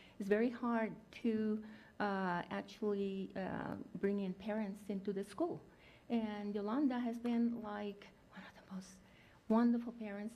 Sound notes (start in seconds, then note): none